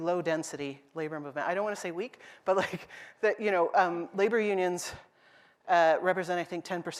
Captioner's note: laughs